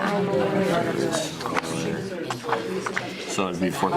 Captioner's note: students chattering